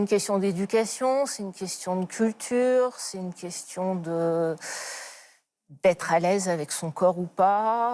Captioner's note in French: soupir